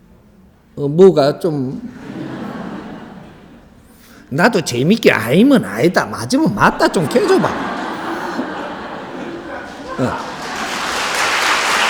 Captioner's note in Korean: 웃음